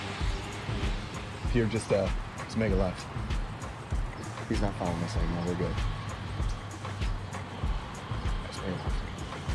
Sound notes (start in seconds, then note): 0.1 upbeat music; 1.8 car engine revving